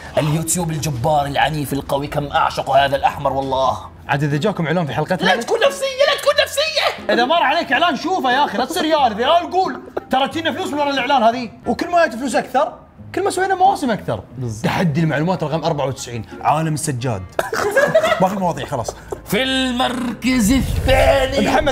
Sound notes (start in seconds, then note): 17.3 both laugh